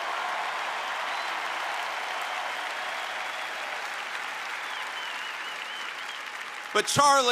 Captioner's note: applause